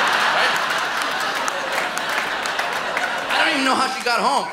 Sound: laughter

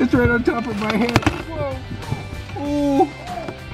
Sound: tape tearing

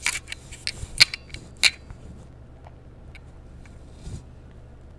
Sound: random humming to fill the awkward silence

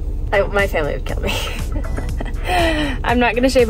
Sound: laughs

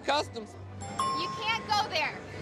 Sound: ding

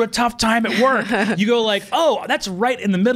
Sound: laughs

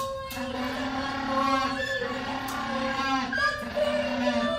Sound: penguin calling

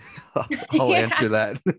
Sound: laughs

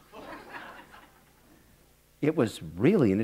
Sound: laughter

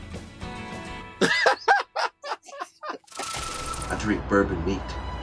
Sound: laughing

